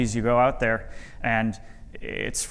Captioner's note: none